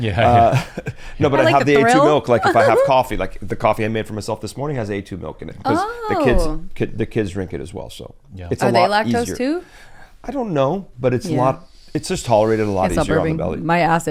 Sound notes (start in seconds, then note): 0.2 chuckles; 1.4 laughs